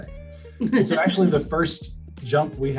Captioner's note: laughs